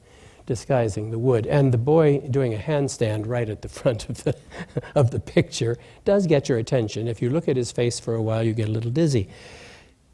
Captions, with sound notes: disguising the wood. And the boy doing a handstand right at the front - [Laughs] ... of the picture does get your attention. If you look at his face for a while, you get a little dizzy.